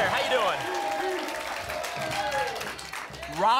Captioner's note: applause and cheering cont